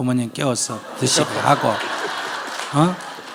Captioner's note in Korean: 청중과 질문자 웃음